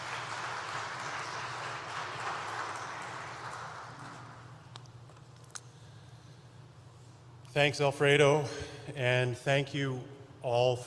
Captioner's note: applause